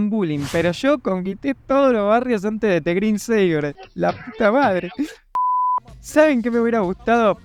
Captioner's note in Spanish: llora